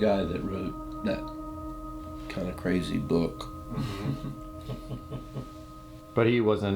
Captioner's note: laughs